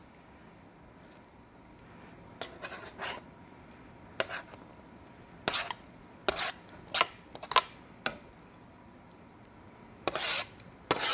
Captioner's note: scraping as salmon is transferred into pan